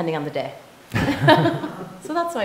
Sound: laughing

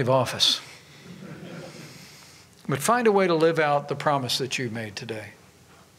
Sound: laughter

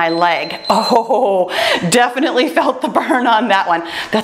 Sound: timer beeps; laughs

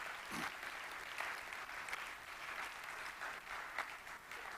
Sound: audience clapping

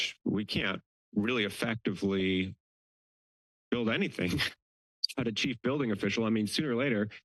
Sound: giggles

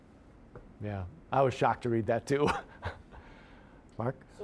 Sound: chuckling

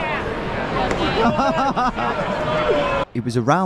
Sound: laughs

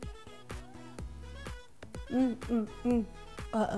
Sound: mmMmMm!

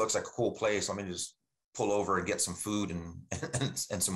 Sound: chuckles

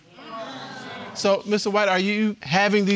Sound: audience exclaiming

